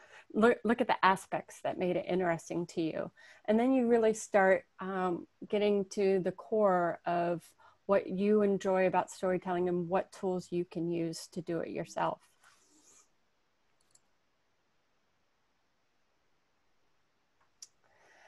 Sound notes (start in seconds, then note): 13.8 mouse clicking